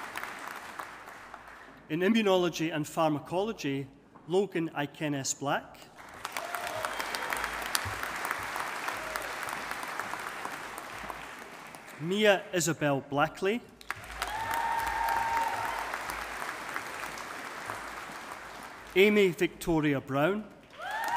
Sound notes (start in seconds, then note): 6.0 audience applauding; 13.8 audience applauding